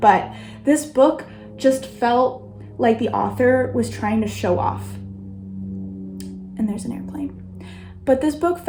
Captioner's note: plane sounds